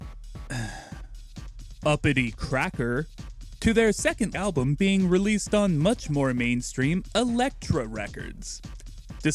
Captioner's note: sigh